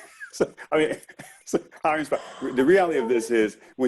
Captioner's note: chuckles